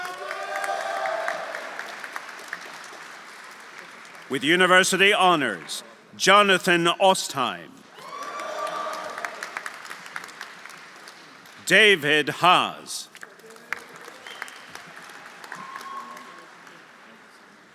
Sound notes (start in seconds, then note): 0.0 audience cheering; 0.0 audience applauding; 8.0 audience cheering; 8.0 audience applauding; 13.3 audience cheering